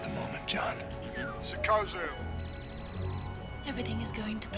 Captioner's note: computer beeping